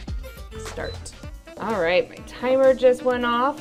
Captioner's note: air fryer beeping